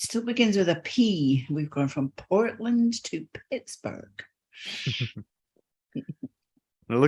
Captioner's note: both chuckle